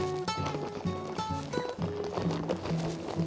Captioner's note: bag rustling